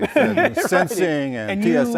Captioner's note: laughter